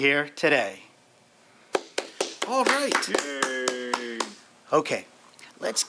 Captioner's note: applause